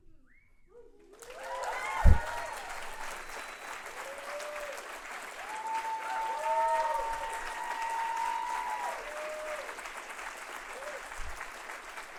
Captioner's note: applause